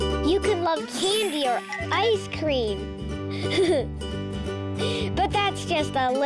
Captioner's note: giggles